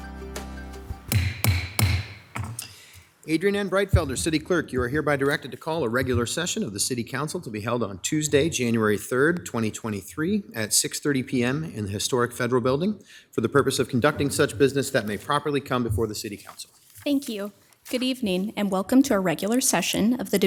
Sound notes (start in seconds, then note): 1.0 gavel taps